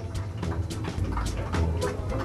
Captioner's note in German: Applaus